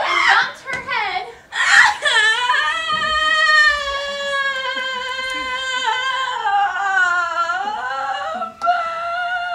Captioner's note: monkey crying